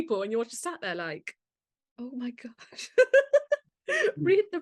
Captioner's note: laughs